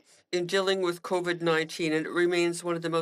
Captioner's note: speaking French